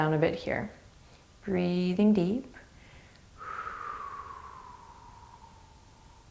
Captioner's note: exhaling